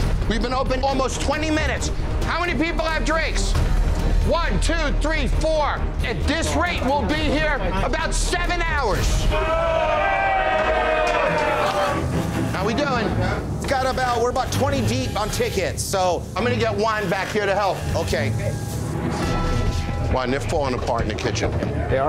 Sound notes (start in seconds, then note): 9.2 customers booing